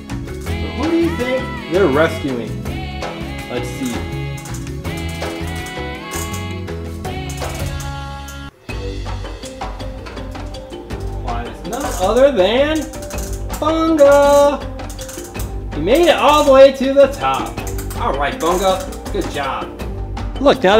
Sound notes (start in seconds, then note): 0.0 crank turns; 3.7 crank turns; 14.8 crank turns